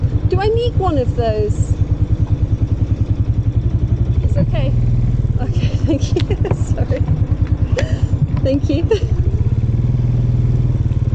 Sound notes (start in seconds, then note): 5.4 laughing